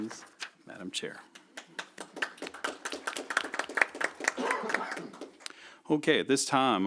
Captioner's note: applause